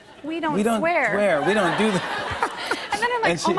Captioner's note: laughter